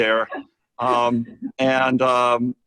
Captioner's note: chuckles